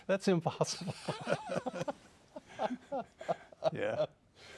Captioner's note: chuckles